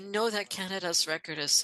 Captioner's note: speaking French